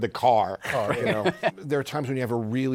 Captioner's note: laughs